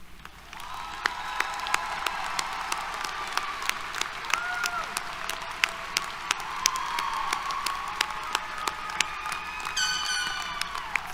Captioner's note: applause, Cheers